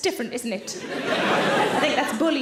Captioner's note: audience laughing